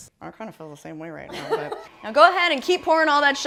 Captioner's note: laughing